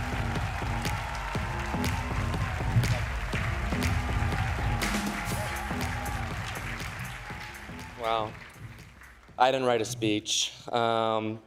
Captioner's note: cheers and applause